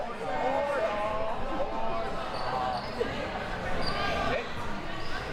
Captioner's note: audience chattering and yelling